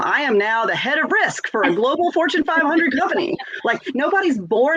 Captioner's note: laughs